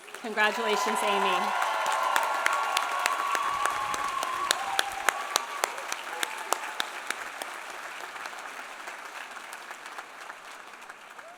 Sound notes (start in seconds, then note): 1.9 audience applauding; 1.9 audience cheering